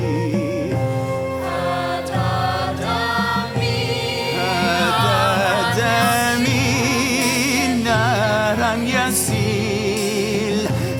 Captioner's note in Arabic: بالعربية